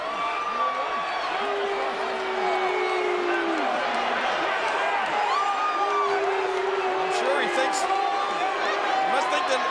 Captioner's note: applause